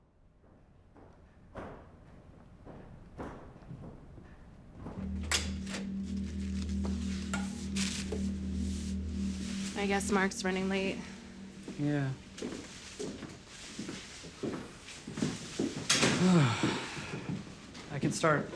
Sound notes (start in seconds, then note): 0.2 footsteps; 5.5 door opens; 15.1 footsteps